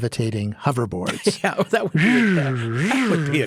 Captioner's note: vocalizing; laughs